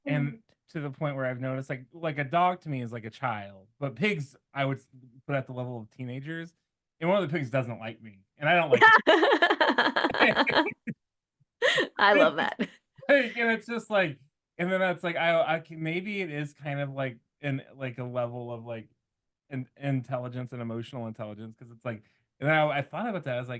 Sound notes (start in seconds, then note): 11.3 laughter